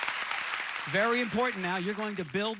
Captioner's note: audience applauding